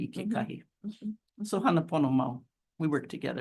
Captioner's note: speaks Hawaiian